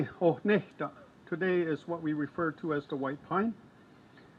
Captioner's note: speaks in foreign language